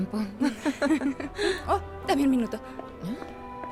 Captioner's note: Secretaria ríe